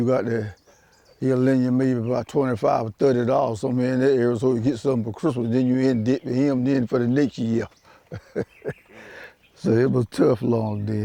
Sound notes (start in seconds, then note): 7.9 laughs